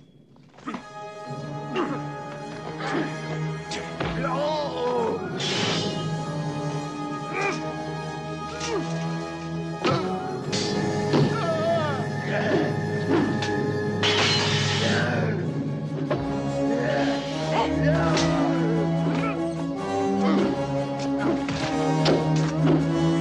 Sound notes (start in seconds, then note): 0.0 banging; 0.3 tense orchestral music; 1.5 grunting; 4.2 hitting; 4.2 yelling; 10.0 hitting; 10.0 yelling; 13.0 grunting; 14.0 hitting; 17.3 grunting